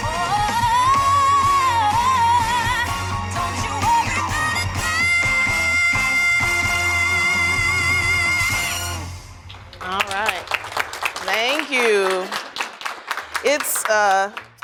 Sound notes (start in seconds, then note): 9.4 applause